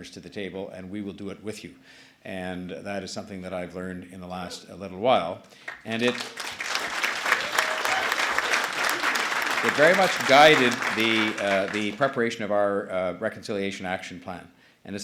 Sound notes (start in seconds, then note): 6.2 applause